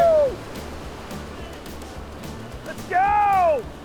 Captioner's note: excited yelling